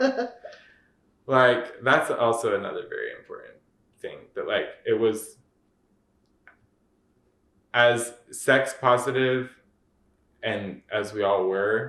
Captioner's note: laughter